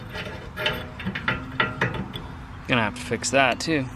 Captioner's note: rattling